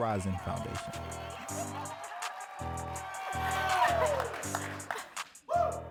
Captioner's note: audience cheering and clapping